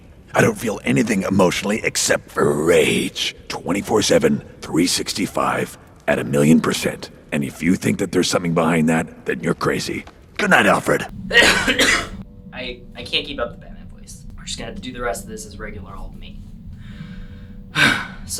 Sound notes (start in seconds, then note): 11.2 coughing; 17.6 sighs